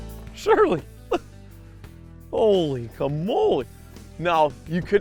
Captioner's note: voiceover